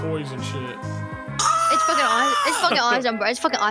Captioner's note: yells